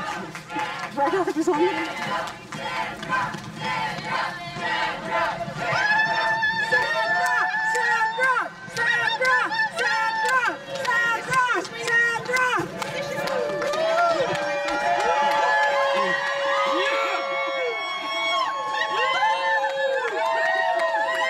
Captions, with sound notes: The headline is Cuomo To Ban Fracking in New York State Citing Health Risks. [cheering] The Cuomo administration announced Wednesday that it would ban hydraulic fracturing in New York state, ending years of uncertainty, concluding that the controversial method of